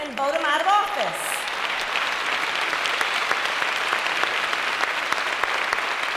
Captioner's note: applause